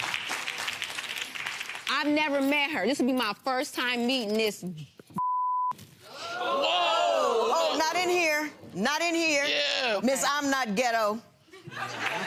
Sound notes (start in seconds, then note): 0.0 clapping; 6.4 groaning